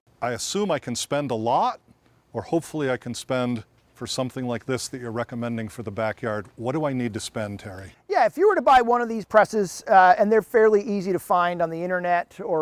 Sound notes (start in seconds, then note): none